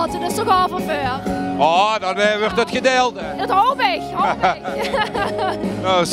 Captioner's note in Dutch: lacht